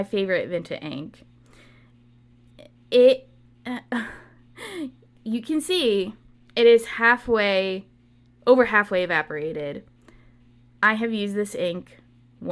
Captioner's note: laughs